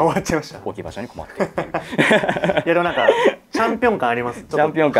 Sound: laughs

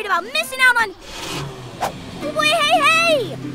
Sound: motor starting

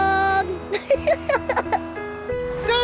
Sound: giggles

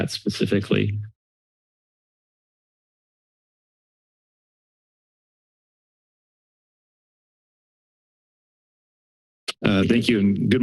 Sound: silence

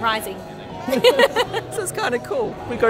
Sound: laughs

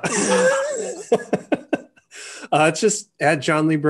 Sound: laughs

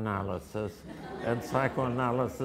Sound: audience laughter

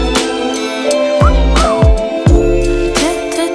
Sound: wolf whistle

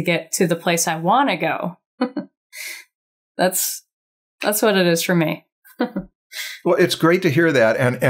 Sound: chuckles

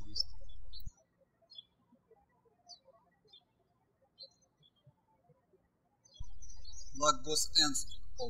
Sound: birds chirping

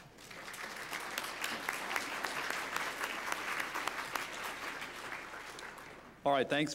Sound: applause

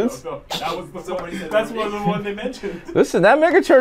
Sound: snickering

